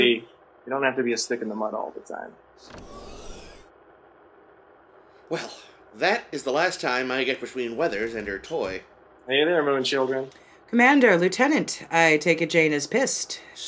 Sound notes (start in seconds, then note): 2.6 sound of door opening